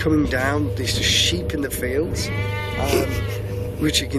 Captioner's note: sheep calling